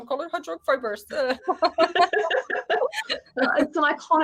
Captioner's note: women giggling